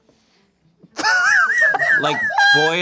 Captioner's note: laughs